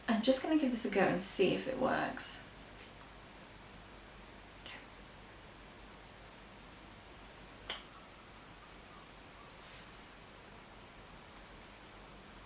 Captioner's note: clicks Fingers